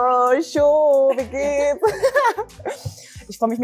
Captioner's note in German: Gelächter